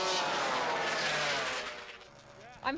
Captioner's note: engines whirring